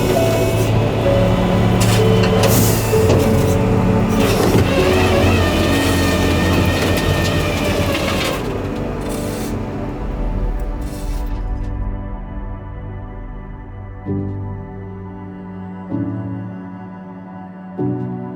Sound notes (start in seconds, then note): 2.1 somber instrumental music continues; 4.7 flatbed winch whirring